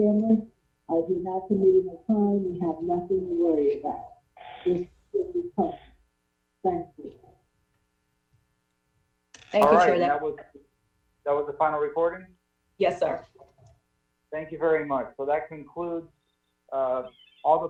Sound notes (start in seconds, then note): 12.8 audio distortion